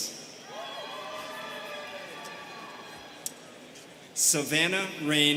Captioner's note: students cheering